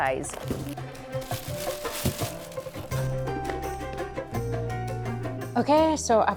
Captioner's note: paper rustling